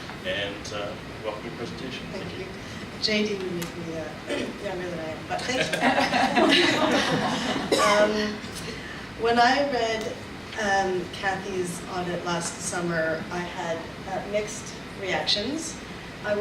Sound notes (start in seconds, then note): 3.9 clears throat; 5.4 audience and panelists laugh